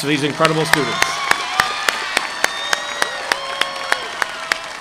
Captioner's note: audience applauding